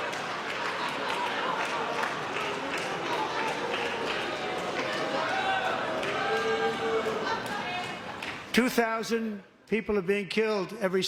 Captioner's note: laughter